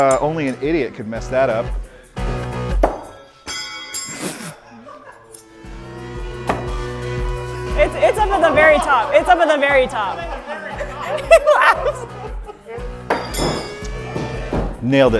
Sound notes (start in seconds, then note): 2.8 ax thudding; 6.4 ax thudding; 11.4 people laughing; 13.1 ax thudding